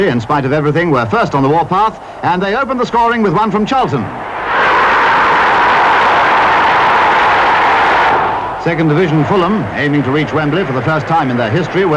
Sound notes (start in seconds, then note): 4.0 crowd roaring